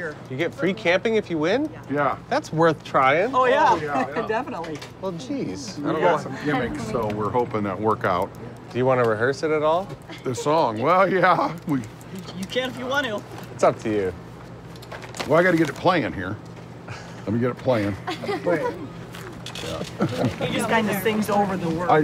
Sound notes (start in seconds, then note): 17.9 laughter